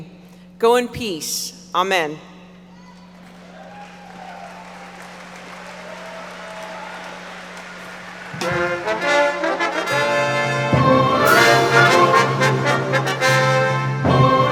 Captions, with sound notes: Go in peace. Amen. (audience applauding) (orchestral music)